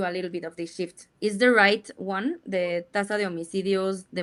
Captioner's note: speaks in Spanish